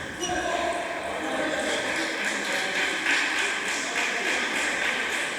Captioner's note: applause